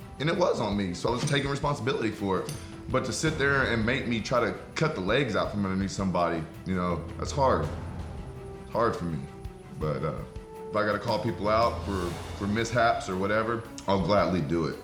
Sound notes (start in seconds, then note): none